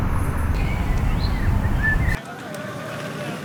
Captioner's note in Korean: 새 지저귀는 소리